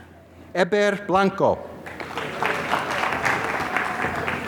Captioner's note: applause